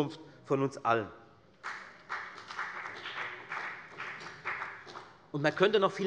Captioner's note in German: Beifall bei der FDP